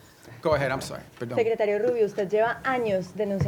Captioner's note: speaking spanish